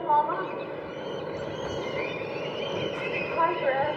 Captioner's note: sounds of the sea, and seabirds